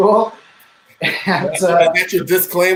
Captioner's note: laughing